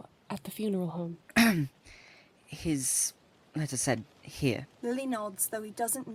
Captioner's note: Remus clears his throat